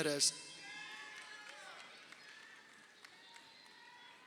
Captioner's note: crowd cheering